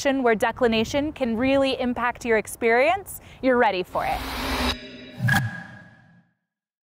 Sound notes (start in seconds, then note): 4.0 screen whooshing